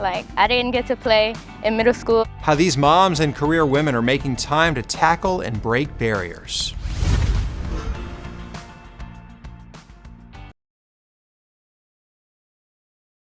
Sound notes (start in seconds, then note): 7.2 air whooshes